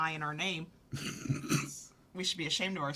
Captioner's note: laughing